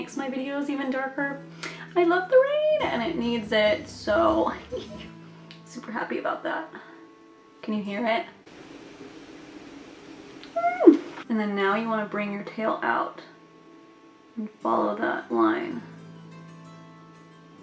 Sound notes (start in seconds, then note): 8.5 rain Sounds